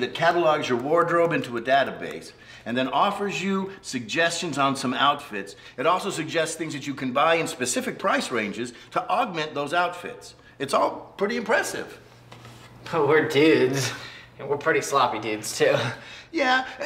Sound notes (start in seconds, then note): none